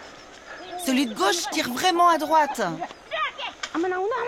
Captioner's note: dzongkha spoken audio